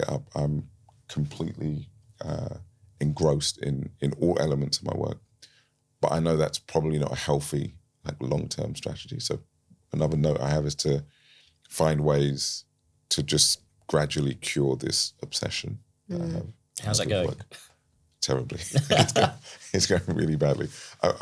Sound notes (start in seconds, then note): 18.6 laughs; 18.6 chuckles